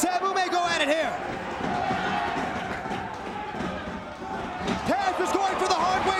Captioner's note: applause